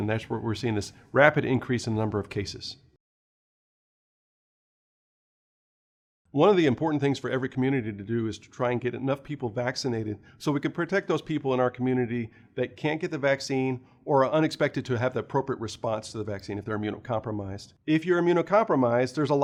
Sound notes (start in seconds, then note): 3.0 no audio